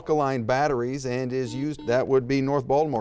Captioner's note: buzzer beeps